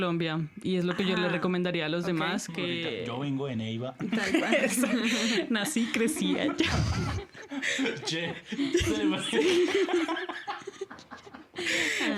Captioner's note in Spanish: risas